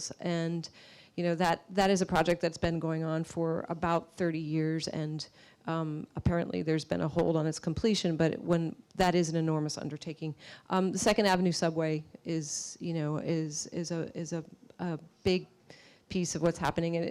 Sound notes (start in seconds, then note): none